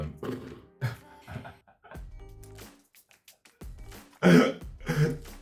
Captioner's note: laughs